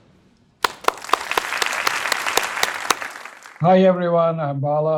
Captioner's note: crowd applauding